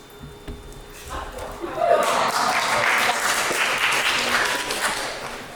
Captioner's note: cheering and applause